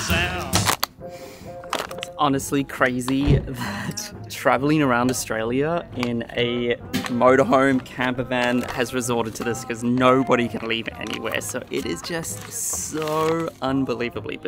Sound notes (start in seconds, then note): 1.0 sniffs